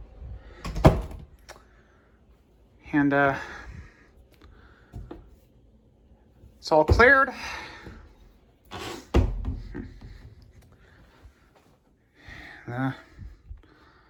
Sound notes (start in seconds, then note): 0.6 bedroom door closes; 8.0 door closes